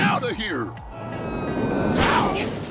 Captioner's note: eraser screams